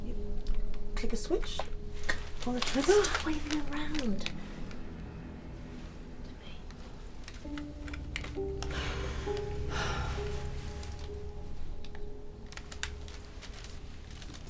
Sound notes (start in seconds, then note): 8.6 women sighing